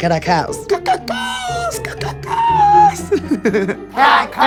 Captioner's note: laughs in champion